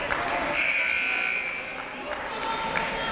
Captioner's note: buzzer